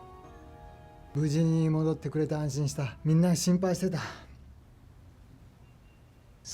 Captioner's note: Toshio speaking in foreign language